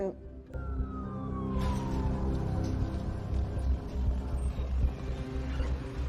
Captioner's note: sirens wailing